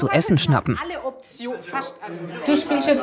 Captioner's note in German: Gespräch